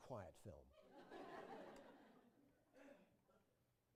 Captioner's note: laughter